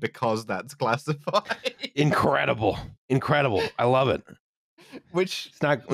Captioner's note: laughs